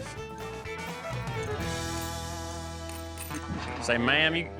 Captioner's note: spur spinning, clicking